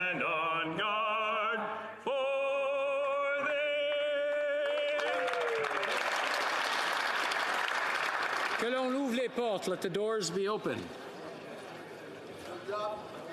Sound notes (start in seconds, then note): 0.6 speaking French